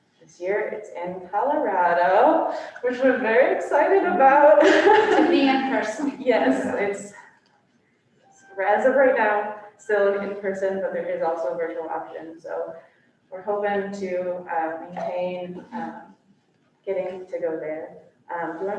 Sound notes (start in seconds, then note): 3.7 laughs